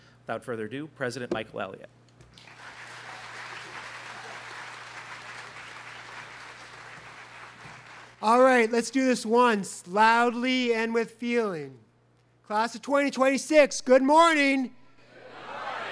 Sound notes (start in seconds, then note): 2.3 students clapping